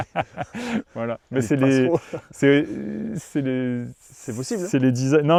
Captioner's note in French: rires